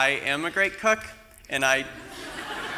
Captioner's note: laughter